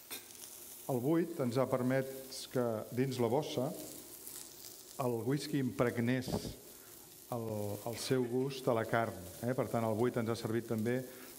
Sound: speaking catalan

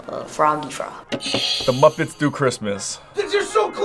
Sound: buzzer rings

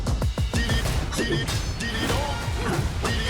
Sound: all grunting

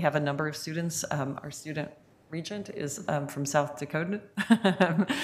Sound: laughs

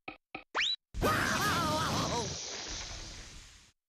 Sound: Daffy crying

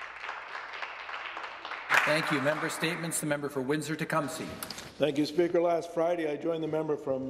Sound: some applause

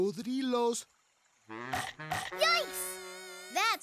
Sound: snapping

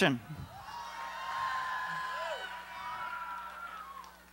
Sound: cheering

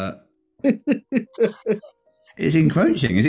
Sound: giggling

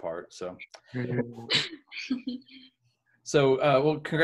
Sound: laughing

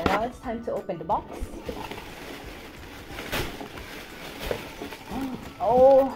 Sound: crunching

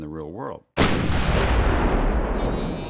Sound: explosion; bear groaning

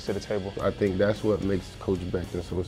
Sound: voiceover

